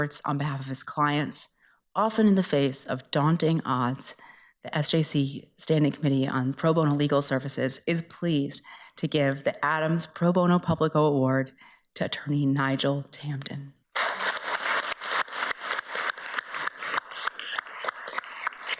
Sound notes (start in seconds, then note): 13.9 everybody applauds